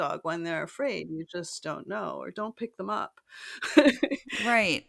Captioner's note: laugh